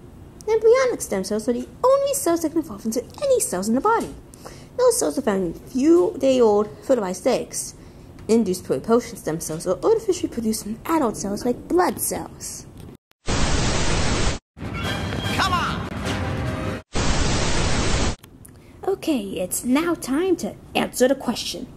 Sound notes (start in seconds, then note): 13.2 static; 16.9 static